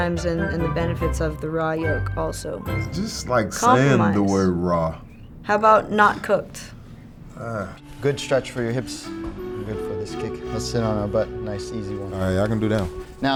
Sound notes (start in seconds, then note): 7.4 Spice grunting; 7.6 meditative music